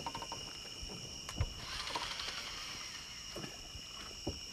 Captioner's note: reel whirring